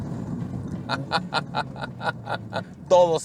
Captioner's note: laughing